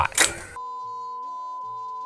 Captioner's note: clicking